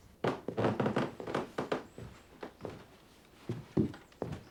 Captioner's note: stairs creaking